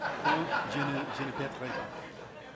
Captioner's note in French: rires